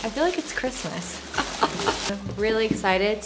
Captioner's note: chuckles